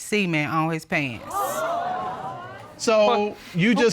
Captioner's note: audience gasping